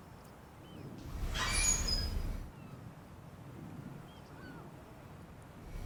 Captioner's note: birds sounds